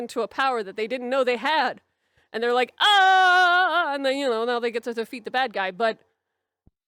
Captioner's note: scream